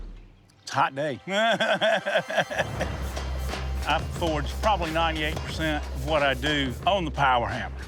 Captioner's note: laughs